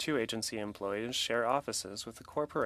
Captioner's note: speaking French